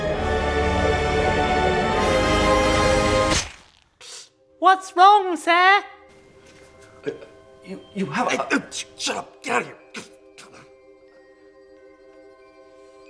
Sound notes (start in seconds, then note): 0.0 whimsical music; 10.0 mutters